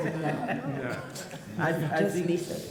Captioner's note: people laugh